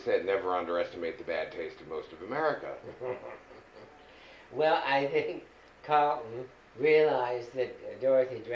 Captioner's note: laughing